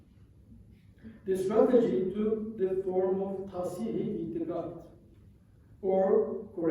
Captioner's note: non-english